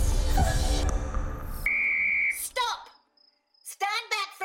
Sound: whistle blowing

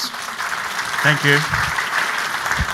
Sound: clapping

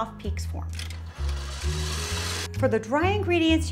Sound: machine whirrs

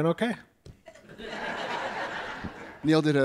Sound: audience laughs

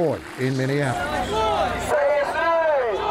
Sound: crowd

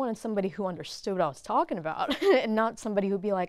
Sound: laughs

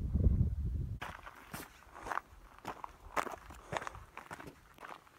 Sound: footsteps on gravel

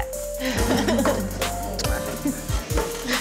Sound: laughs

